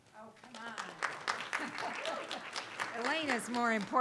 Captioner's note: audience applauding